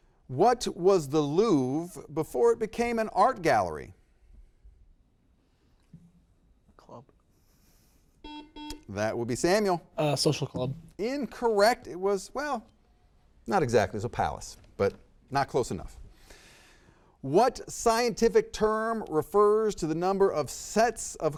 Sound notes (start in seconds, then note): 8.2 buzzer beeps